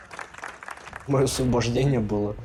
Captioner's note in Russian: аплодисменты